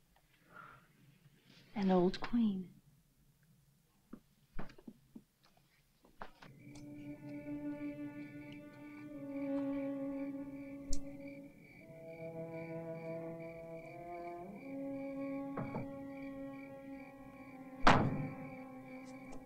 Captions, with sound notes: - An old Queen. (ominous music) (crickets softly chirping)